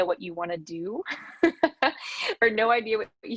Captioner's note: laughs